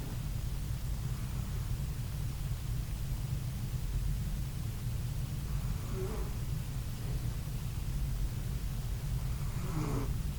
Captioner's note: Penny snoring...a common background noise in my videos